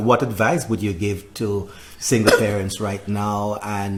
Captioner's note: coughs